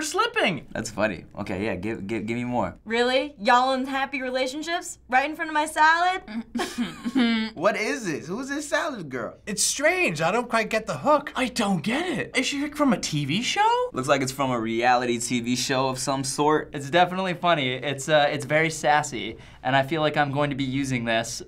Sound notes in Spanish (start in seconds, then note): 6.4 Riendo entre dientes